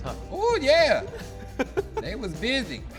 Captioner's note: laughing